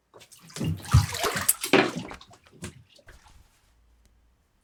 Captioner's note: water splashing